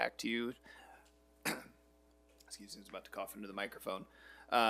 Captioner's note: coughs